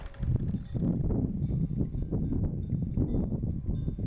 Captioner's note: wind blowing